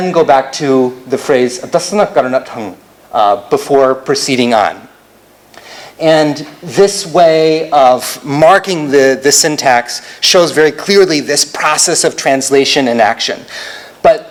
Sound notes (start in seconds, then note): 0.0 non-english speech